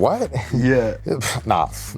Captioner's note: pfft